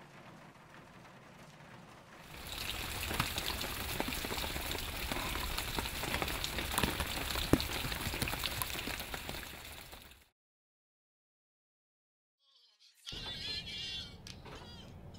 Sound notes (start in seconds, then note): 2.8 rain pouring down